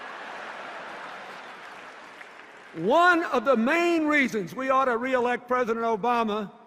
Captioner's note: laughter, cheers